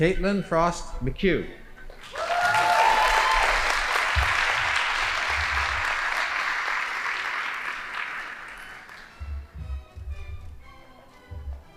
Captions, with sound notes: Caitylin Frost Michul. (audience applauding) (band playing)